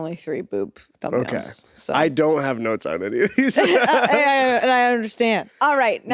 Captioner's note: laughs